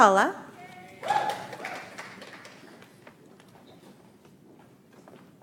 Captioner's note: audience applauds